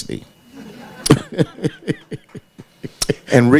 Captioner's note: audience laughing